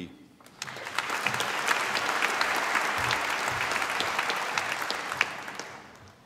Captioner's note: applause